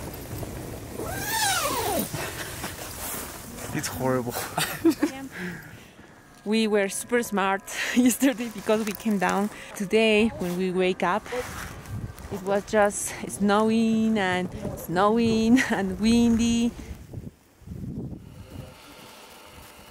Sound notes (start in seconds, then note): 1.0 tent zipper zips